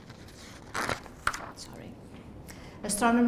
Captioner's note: none